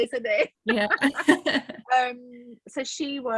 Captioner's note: laughs